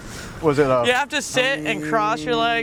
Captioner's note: humming